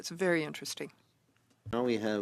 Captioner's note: speaking French